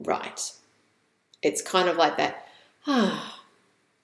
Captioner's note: sighs